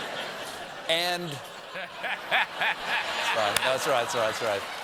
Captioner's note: laughter